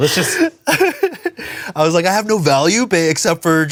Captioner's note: laughs